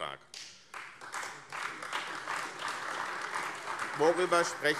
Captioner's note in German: Beifall AfD